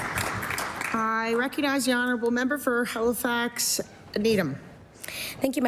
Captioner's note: applause